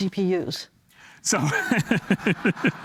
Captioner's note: laughs; laughter